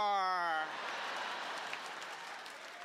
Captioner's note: laughter